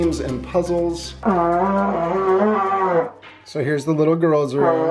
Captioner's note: vuvuzela blats